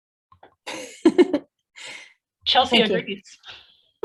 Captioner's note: chuckling